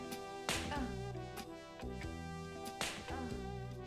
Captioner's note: smack